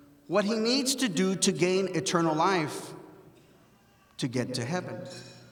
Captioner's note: none